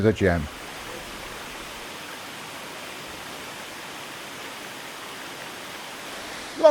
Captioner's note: sounds of flowing water